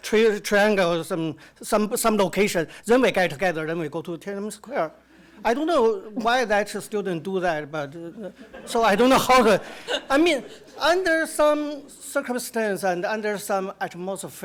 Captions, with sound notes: some location, then they gather and they go to Tiananmen Square. I don't know why that student did that, but... (audience laughter) So I don't know how to... I mean, under some circumstance and under some atmosphere,